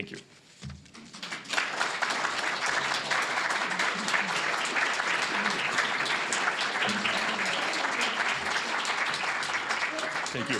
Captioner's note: applause